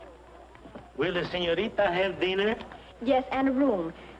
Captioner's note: spanish accent